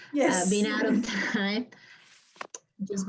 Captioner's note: laughs; chuckles